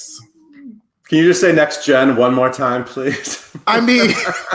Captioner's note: laughs